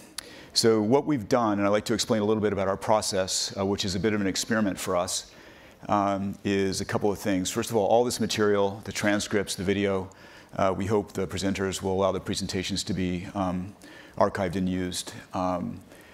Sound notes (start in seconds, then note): none